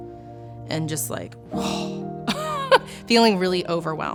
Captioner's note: chuckles